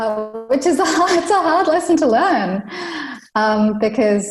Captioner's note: laughs